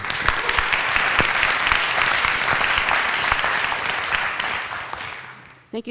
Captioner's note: applause